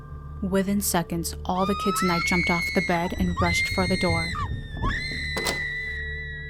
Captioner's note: screaming